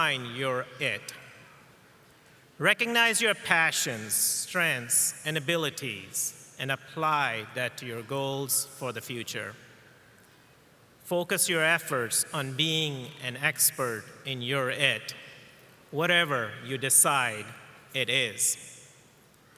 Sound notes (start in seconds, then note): none